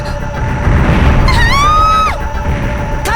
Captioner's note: scream